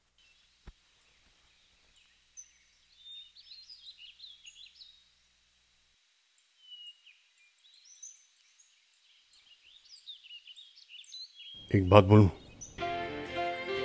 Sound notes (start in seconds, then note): 1.6 Birds chirping